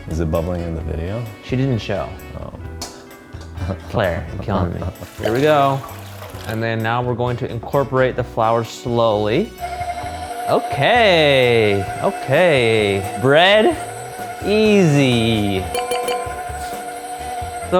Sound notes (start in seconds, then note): 4.8 water splashing; 9.9 mixer buzzing; 15.9 clocks dinging